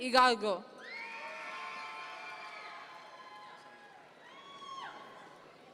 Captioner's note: audience members cheer